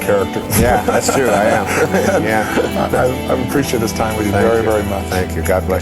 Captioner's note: laughter